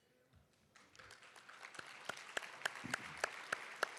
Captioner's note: applause